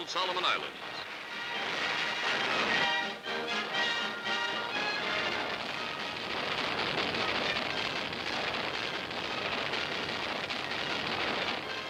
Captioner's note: artillery fire explosions